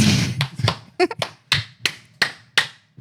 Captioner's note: laughter; clapping